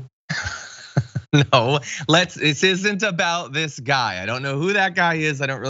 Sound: laugh

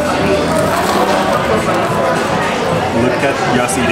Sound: sandwich crunching

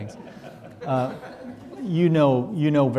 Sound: audience laughing

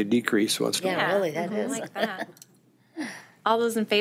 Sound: chatter of agreements from Board

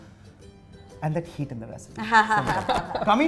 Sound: chuckles

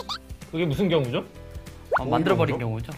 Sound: laughs

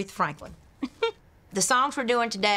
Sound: chuckles

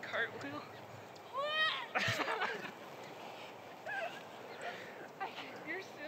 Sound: laughing; yelling

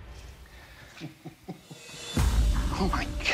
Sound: laughs

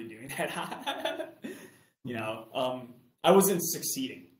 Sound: laughs

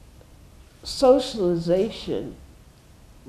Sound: none

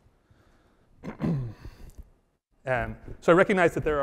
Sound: coughs

